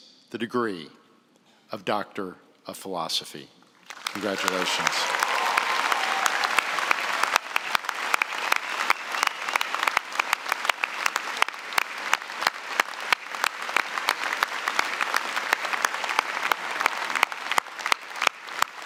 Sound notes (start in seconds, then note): 4.8 applause